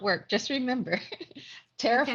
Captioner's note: laughs